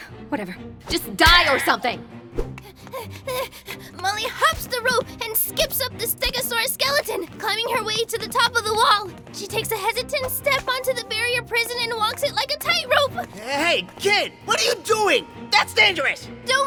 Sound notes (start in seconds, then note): 2.6 Molly panting